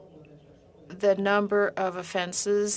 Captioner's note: speaking in French